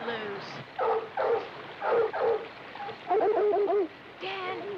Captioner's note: dogs barking